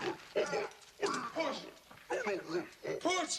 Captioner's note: Qahhar grunting